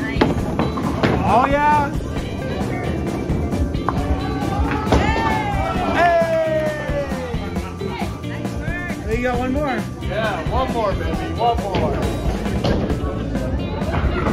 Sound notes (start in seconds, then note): 6.0 cheering